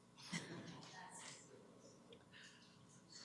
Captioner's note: background chatter